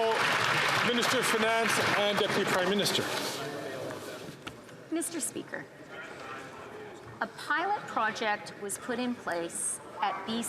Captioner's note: some Applause